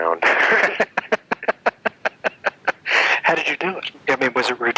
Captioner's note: laughing